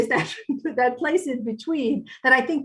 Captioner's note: laughs